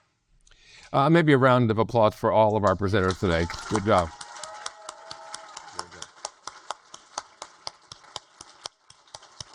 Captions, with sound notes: Maybe a round of applause for all of our presenters today. Good job. (audience applaud)